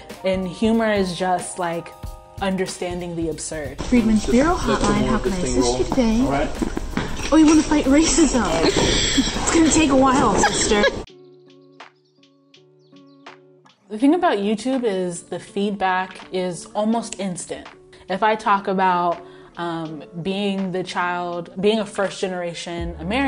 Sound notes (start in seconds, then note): 7.9 laughs; 11.2 light music